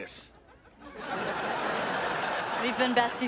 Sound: audience laughing

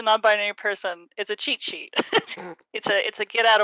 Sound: laughs

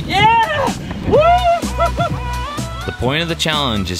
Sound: whooping

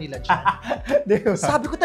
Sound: laughs

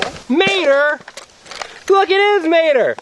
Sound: voiceover

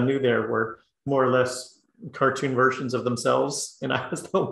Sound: laugh

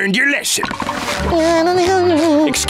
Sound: humming

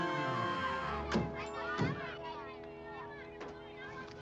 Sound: children shouting

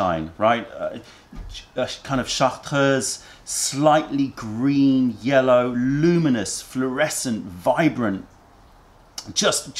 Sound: french language

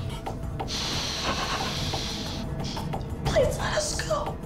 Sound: sniffs

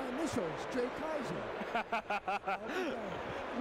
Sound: laughs

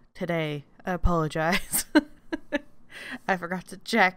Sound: laughs

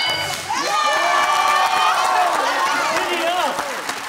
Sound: bell dings; cheering

